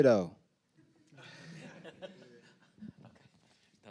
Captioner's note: panelists laughing